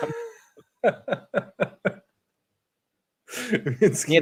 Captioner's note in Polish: śmiech